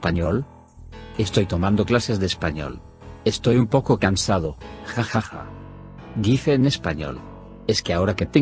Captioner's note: says in Spanish